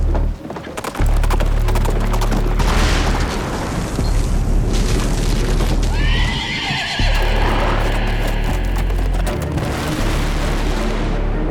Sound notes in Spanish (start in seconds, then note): 0.0 Ruido de los cascos; 2.6 Explosión; 5.9 Relinchos